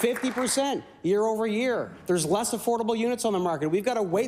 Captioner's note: applause